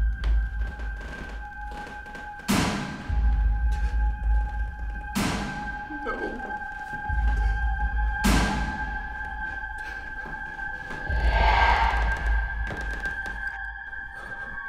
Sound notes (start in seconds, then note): 3.6 loud banging